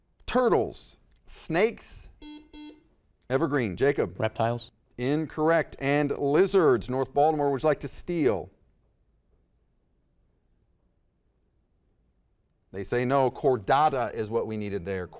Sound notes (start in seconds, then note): 2.2 buzzer dings